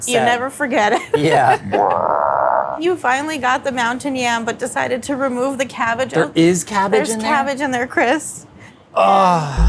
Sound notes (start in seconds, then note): 1.2 monster growls